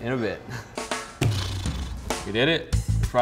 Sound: blows raspberries

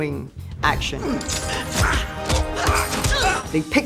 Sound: grunting

